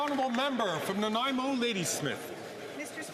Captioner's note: some Applause